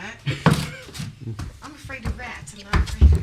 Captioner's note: laughs